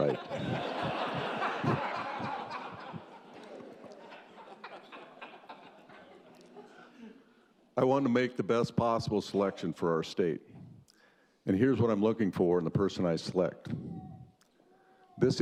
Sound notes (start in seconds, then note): 0.0 laughter